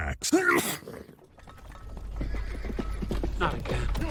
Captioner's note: sneeze; hooves approaching